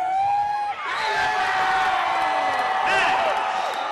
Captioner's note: loud cheering and whistle blowing